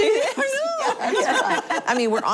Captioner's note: laughing